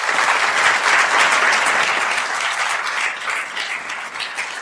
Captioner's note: attendees applauding